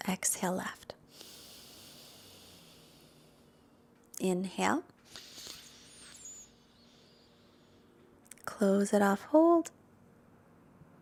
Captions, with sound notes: Exhale left. (exhales deeply) Inhale. (inhales deeply) Close it off, hold.